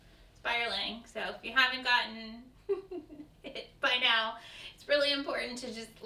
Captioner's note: laughs